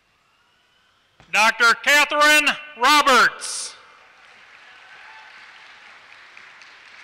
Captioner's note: applause